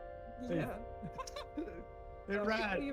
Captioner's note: laughs